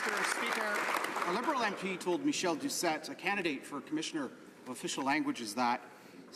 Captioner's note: some Applause